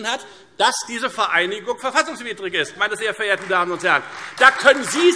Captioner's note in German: Beifall Freie Demokraten, CDU und AfD